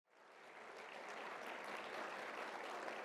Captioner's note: applause